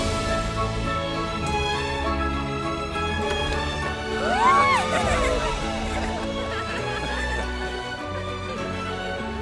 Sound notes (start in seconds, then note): 4.1 Todos ríen; 5.3 Continúa música inspiracional